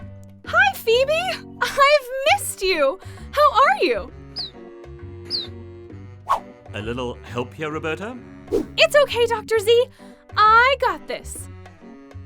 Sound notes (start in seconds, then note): 5.3 phoebe chirps